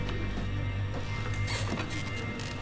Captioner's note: chair creaks